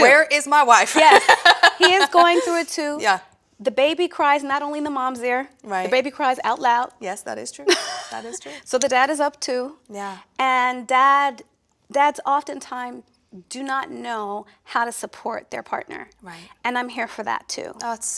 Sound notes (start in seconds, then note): 0.9 laughs; 7.6 laughs